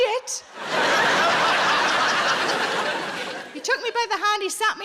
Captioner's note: audience laughing